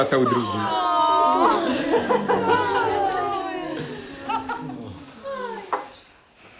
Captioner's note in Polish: Dźwięki rozczulenia